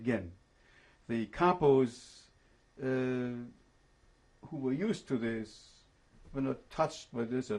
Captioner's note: pauses for 3 seconds